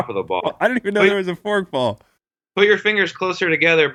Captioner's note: laughs